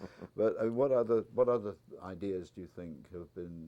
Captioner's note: laugh